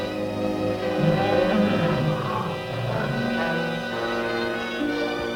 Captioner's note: soft growling